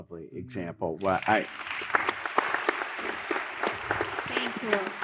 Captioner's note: applause